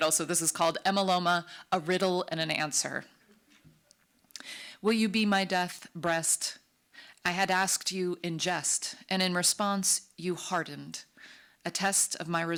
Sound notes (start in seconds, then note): none